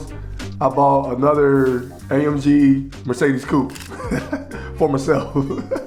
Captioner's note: laughs